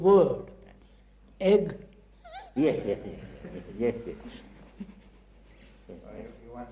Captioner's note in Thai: หัวเราะ